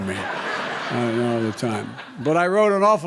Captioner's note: laughter